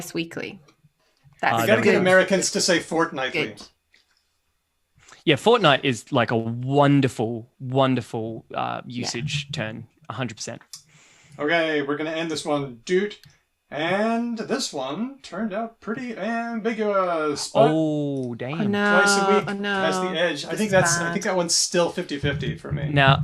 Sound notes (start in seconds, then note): 13.2 beeps